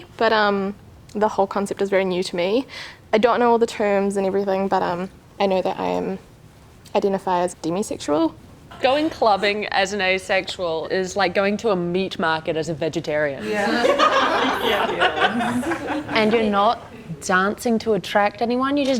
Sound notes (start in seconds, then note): 13.4 everyone laughs